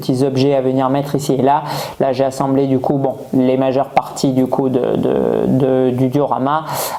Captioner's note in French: grognement